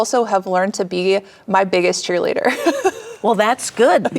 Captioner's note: chuckles